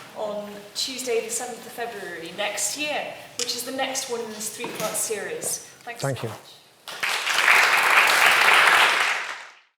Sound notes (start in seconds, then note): 6.9 audience applauds